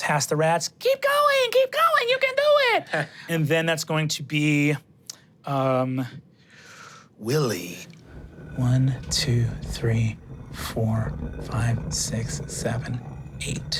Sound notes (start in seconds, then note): 7.8 stone dragging